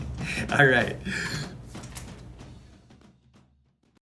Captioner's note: laughs